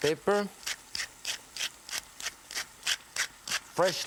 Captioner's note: pepper corns grating